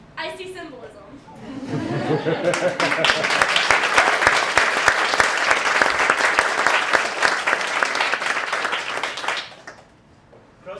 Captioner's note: laughter and applause